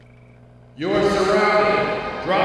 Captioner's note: man On Loudspeaker